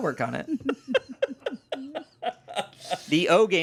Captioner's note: everyone laughs